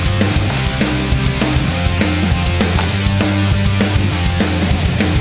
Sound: breaking off the third wooden piece, background music

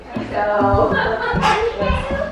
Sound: chuckles

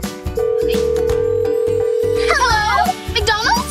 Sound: cellphone ringing; phone beeps

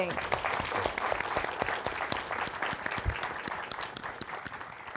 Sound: applause

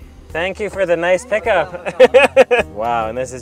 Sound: laughs

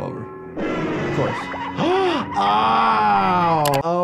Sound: gasping, pained shouting

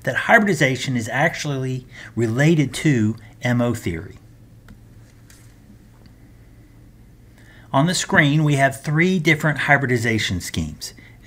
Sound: turn page

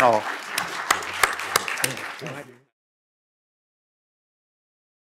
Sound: applause

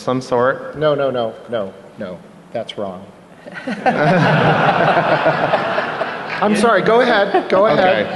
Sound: laughter

